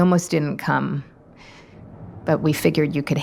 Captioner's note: wind gusting